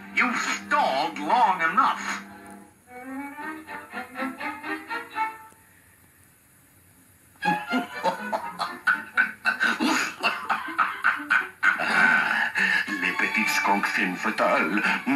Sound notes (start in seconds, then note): 7.4 laughs